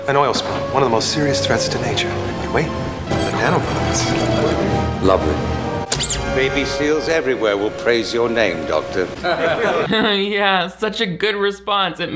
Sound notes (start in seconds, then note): 9.2 villains laugh; 9.2 chuckles disingenuously